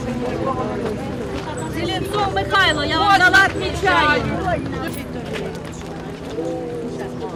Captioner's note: mumbling, calling names